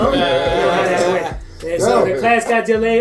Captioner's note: all laugh